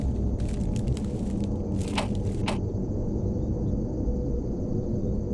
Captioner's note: knocking on door